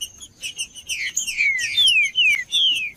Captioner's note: trinca ferro cantando